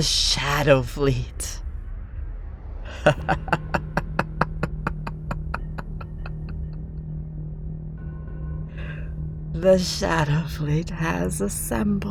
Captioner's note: evil laughter, dramatic music is rising again